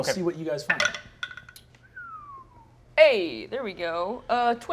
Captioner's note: dice clatter; whistles